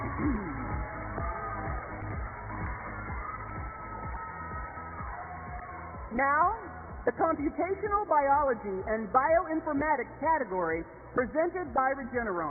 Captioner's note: cheers and applause